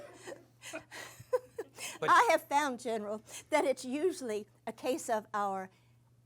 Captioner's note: laughs